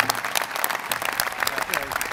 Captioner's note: applause